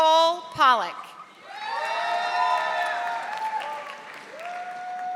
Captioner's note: audience applauding